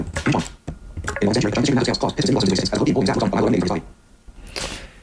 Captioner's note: extremely fast speaking